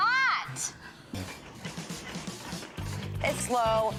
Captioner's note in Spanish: crujidos de toro